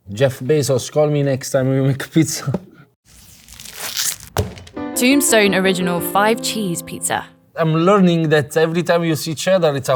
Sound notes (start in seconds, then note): 3.1 pizza clanging; 3.2 plastic crinkling; 4.7 cheerful music ends; 4.7 cheerful music